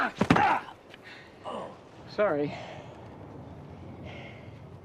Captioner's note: grunting; man Groans